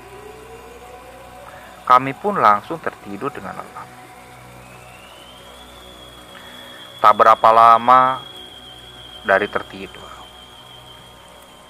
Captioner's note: applause